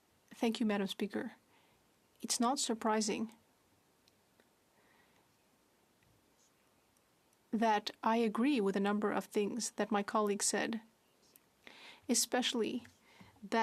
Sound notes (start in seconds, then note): 3.7 speaking French